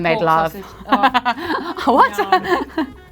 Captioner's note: laughs